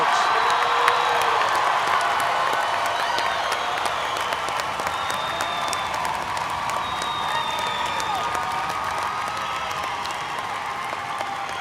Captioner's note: cheers, applause